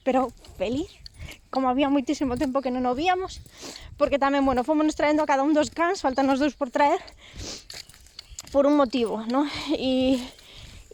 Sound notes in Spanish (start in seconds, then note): 0.1 con la voz quebrada; 7.2 sorbe la nariz